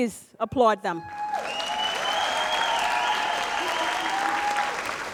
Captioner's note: audience applauds